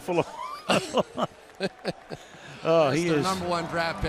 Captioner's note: laughter